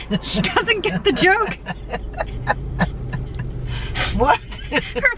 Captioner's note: laughing; both laughing